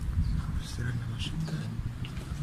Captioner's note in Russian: стиральная машинка